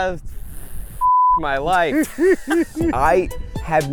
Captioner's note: group laughs